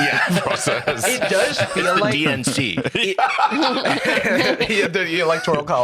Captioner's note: laughs; laugh